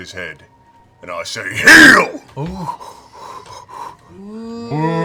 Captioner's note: shouts